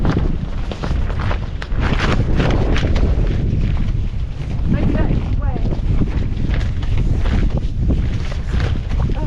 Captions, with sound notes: *big gust* maybe that is the way